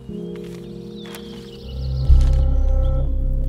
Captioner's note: Paper ruffling